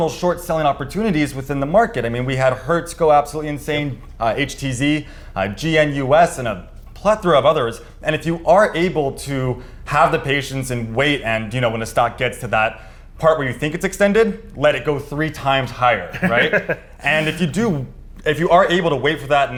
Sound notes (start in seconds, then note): 16.0 laughs